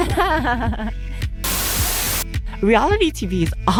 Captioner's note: Static